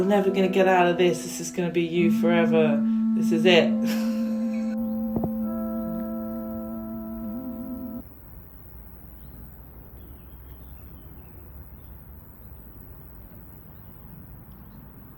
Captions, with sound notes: -never going to get out of this, this is -[guitar music] going to be you forever, this is it. [guitar music] [outdoor sounds]